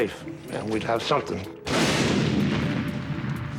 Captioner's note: explosion